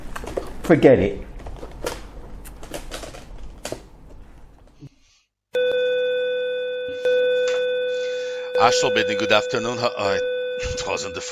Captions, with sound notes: Forget it! [ringing] Ashtor building good afternoon, [ring continues] Ah! It wasn’t the phone!